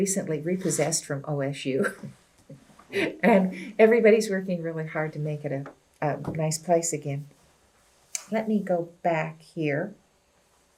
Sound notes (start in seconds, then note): 2.9 laughs